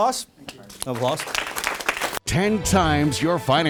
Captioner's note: applause